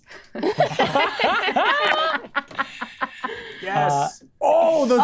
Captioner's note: group laughing